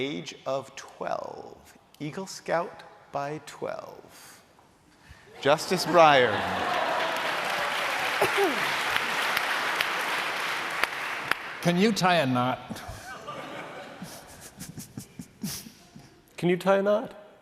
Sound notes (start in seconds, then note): 5.5 laughter; 9.8 applause; 12.7 laughter